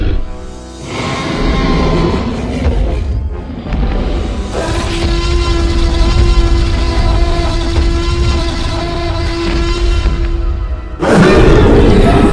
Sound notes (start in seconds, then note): 3.6 T-Rex Stomping and Roaring Sounds